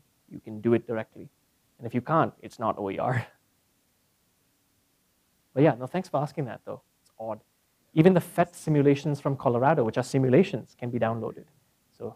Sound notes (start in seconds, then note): 3.2 laugh